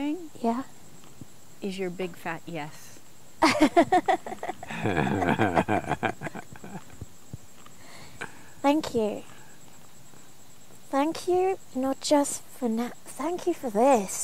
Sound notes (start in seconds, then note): 3.4 laughs